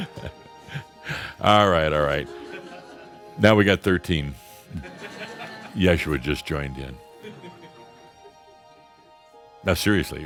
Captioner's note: more chuckles